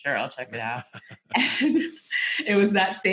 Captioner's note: chuckles